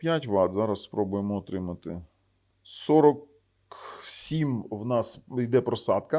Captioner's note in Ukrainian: сопіння